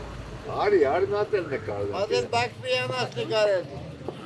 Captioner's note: indistinct chatter